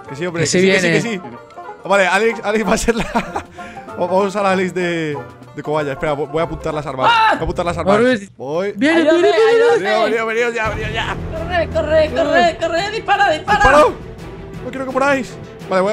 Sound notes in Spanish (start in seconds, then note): 2.6 risa